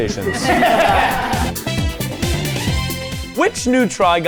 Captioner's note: all laughing; bright music